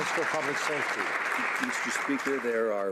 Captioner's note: some Applause